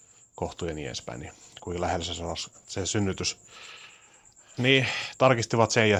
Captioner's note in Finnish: huokaus